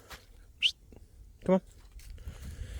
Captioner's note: whistles